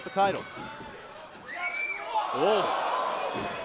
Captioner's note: crowd cheering